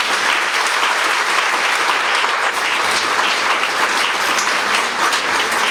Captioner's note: applause